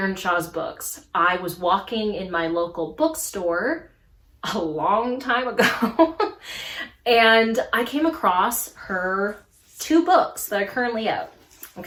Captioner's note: laughs